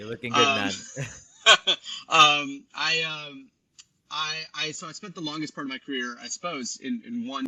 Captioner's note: laughs